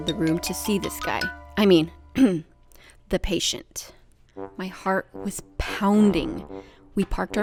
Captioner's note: cough